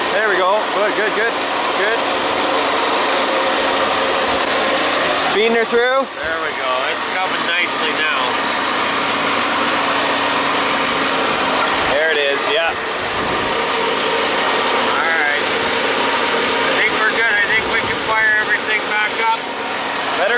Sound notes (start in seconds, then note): 3.0 machine engine roaring; 8.9 machine engine roaring